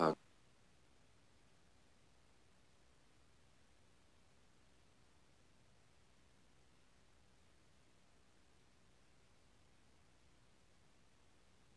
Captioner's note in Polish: szum